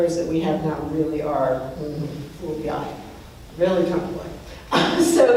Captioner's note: laughs